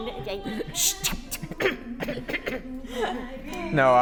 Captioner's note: cough, Cough